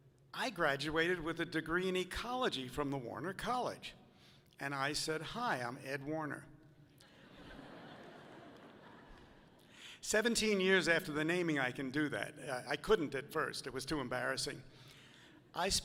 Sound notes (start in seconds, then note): 7.0 audience laughing softly